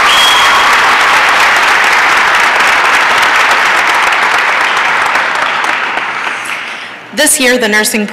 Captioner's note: applause and cheering